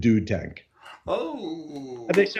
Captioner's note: claps